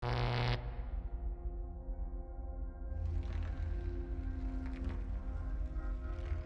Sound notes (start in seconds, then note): 0.0 static; 0.0 intense music